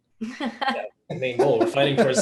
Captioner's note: all laughing